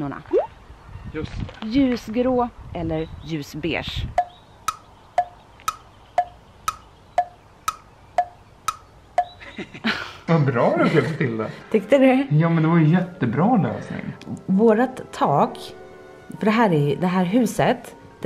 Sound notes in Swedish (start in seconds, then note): 4.1 ljudeffekt av tickande klockslag; 9.4 skratt